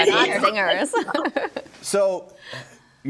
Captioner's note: group laughs